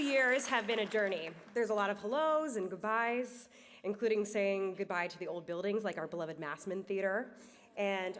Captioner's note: applause